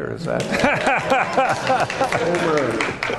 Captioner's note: laughter and applause